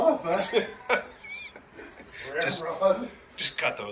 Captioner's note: laughing